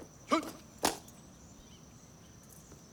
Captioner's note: clicking heels